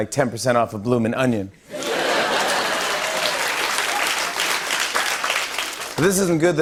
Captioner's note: laughter and applause